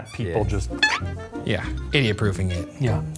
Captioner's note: stretching effect snaps